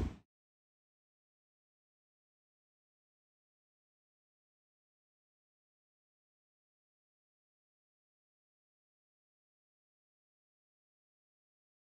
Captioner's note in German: Stille